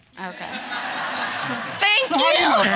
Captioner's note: audience laughing